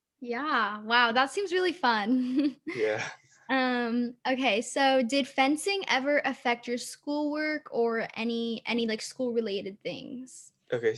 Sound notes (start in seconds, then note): 2.8 chuckling